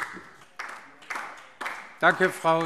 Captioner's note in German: Beifall DIE LINKE